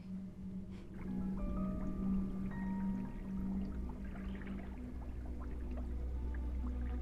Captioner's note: eerie orchestral music; water swashes